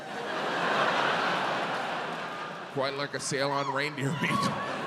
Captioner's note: audience laughs